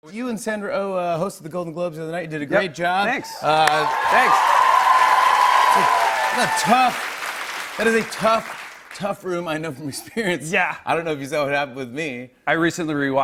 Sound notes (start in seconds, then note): 3.2 cheers and applause